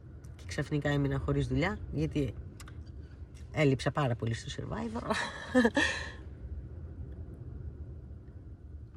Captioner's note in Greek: γέλια